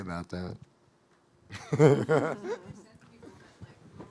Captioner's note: laughing